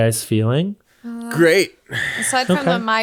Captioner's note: sighs